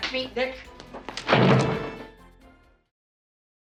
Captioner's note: door slam